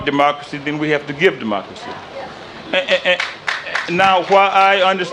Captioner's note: applause